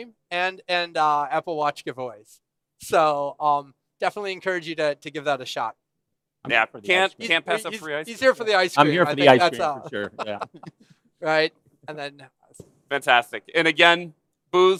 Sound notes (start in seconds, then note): 4.6 laughter